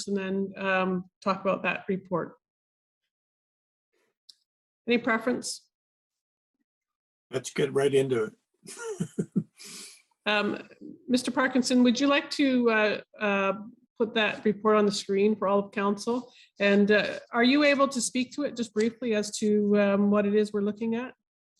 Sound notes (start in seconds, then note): 8.6 chuckling